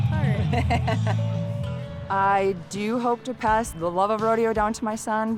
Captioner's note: laughs